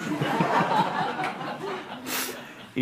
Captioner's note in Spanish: Risas